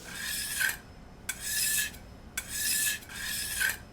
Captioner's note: knife scraping